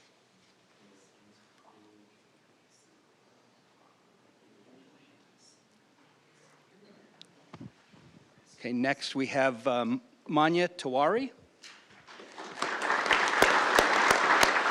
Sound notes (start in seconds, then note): 1.3 applause